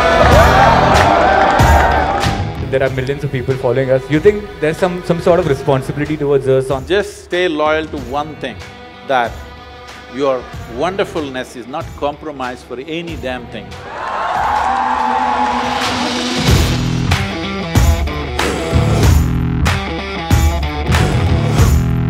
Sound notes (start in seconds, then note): 0.0 cheering; 13.8 cheering